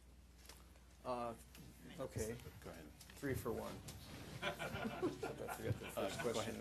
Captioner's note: laughter